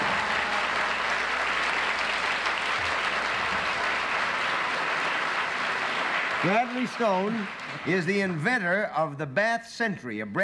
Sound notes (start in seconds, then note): 0.0 cheers and applause